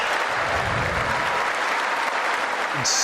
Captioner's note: cheers and applause